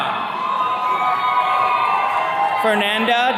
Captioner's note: attendees cheering